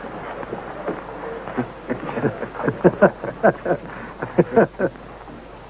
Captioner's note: laughing